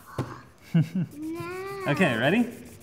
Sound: laughs

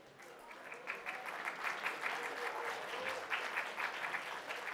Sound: applause

